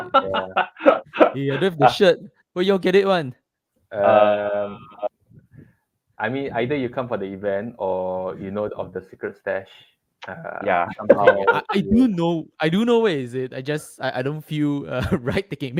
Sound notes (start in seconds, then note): 0.0 laughs; 10.8 laughter; 14.6 laughs